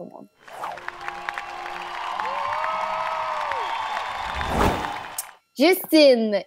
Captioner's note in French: applaudissements